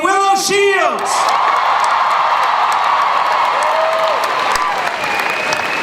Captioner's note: crowd cheering